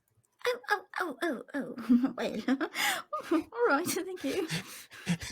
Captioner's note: laughs